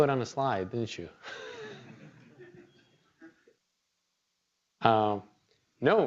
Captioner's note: laughter